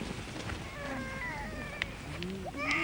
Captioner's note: baby crying